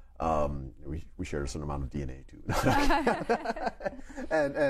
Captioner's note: laughs